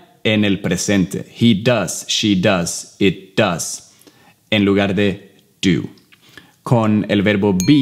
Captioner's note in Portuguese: Inglês